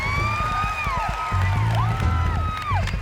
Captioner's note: dramatic music; cheering